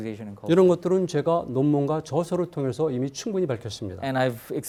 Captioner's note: speaking in Korean